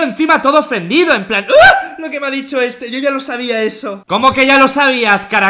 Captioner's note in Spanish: Grito de pta :v